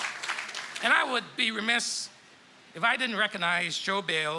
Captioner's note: applause